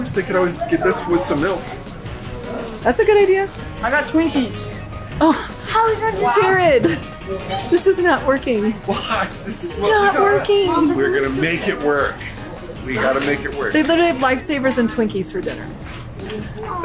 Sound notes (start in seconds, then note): 6.3 laughs